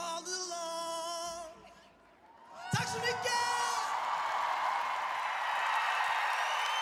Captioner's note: applause